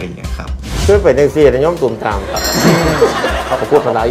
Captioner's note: laughter